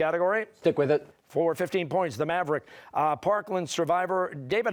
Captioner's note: none